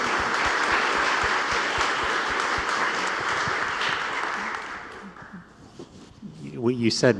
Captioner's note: applause